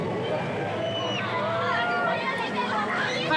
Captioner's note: distant riders screaming